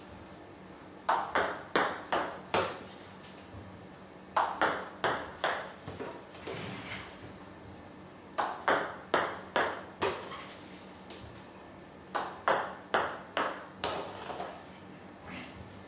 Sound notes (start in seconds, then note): 2.1 ball ping pong hitting continues; 12.1 balls ping pong hitting continues